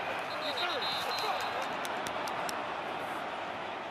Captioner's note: whistle